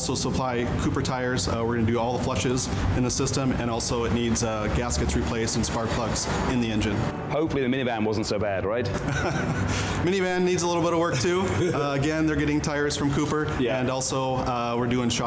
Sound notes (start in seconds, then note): 8.9 laughter